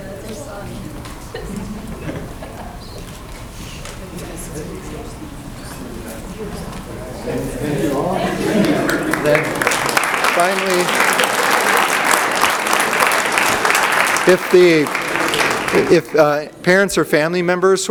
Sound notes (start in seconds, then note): 7.8 audience applauds